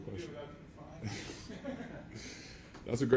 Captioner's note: Leonard and reporter laugh